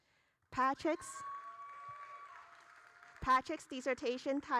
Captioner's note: audience cheering